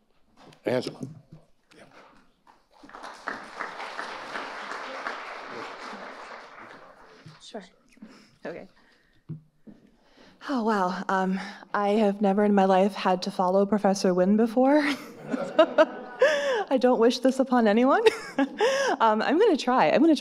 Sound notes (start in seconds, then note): 2.5 audience applauding; 14.8 audience laughing; 18.5 laughing